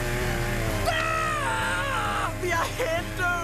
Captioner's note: screaming